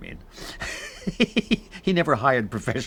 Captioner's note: laughs